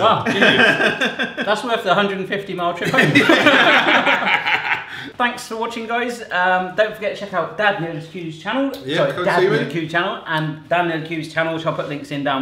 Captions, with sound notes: - Wow. That's worth the 150 mile trip home. (all laugh) Thanks for watching, guys. Don't forget to check out Dad Nerdcubed's channel. And Dan Nerdcubed's channel.